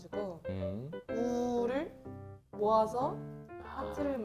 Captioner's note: ooh